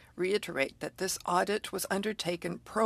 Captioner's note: speaking French